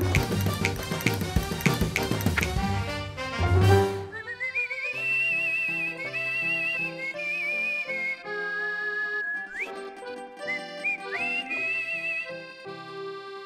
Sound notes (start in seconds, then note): 0.1 snaps; 4.0 whistling